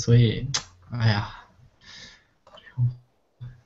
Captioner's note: sigh